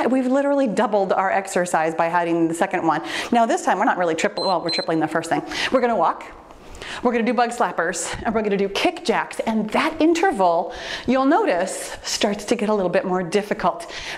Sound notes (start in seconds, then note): 4.3 timer beeps